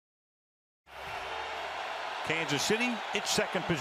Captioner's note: cheering